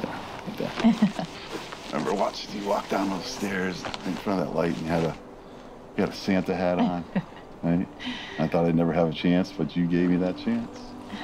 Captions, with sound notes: (Kathy laughs) I remember watching you walk down those stairs in front of that light and you had a Santa hat on, right? I thought I'd never have a chance but you gave me that chance.